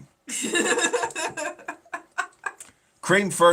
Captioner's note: laughing